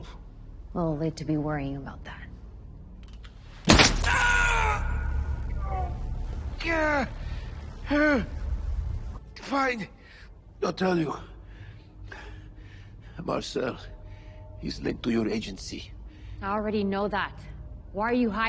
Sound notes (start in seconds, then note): 3.6 gun shot fires; 3.9 Nikolai screaming